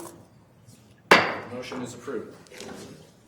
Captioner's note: banging gavel